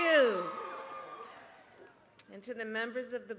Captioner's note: applause